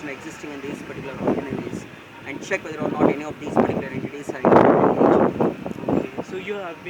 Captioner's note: wind